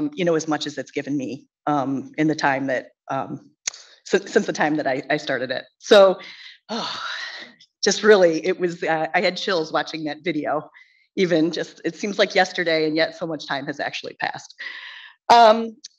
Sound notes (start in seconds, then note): 6.2 sighs